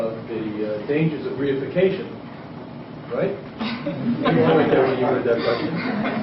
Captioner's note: laughter